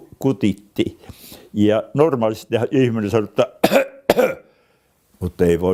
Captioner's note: cough cough